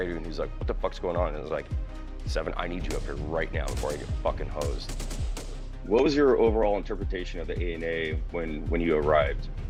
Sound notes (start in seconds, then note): 4.6 gunfire bursts